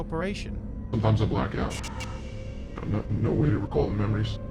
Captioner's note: disguised voice